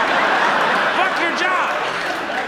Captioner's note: audience laughs